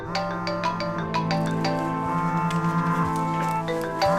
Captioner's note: cellphone rings